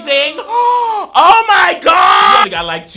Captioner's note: gasps